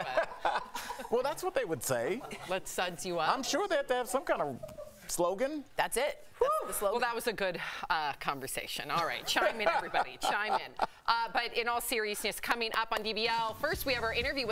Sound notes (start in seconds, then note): 4.5 laughter